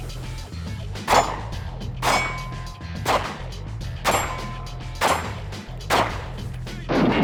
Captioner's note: gunshots